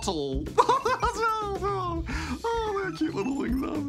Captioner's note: laughs